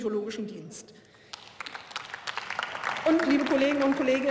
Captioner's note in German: Beifall